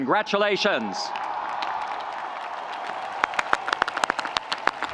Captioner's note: audience applauding